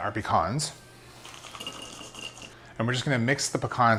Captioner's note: nuts rattle into bowl